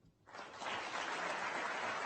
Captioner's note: applause